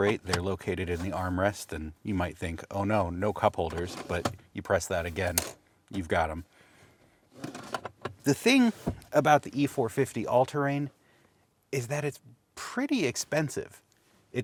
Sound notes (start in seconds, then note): 5.3 cup holders clacking